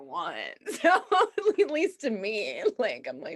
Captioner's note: laughs